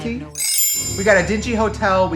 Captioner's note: chimes tinkle